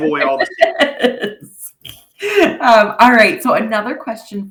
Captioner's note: laughing